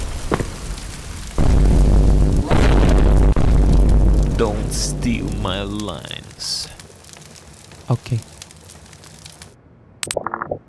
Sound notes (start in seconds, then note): 1.0 male_07 drip